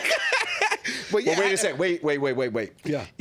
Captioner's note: laughing